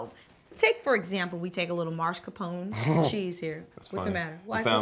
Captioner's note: chuckling